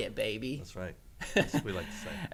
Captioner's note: laughs